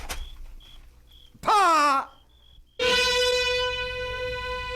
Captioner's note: body thuds; gasps